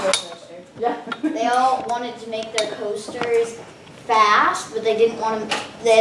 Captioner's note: chuckles